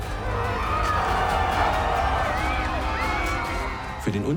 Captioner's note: screaming